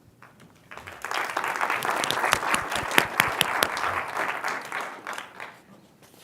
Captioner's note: applause